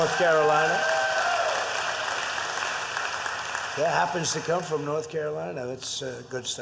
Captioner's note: applause